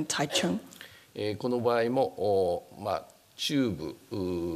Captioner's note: speaking japanese